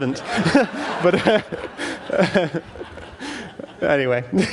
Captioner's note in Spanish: Risas